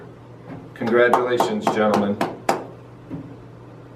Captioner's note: clapping